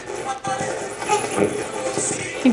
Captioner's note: radio voice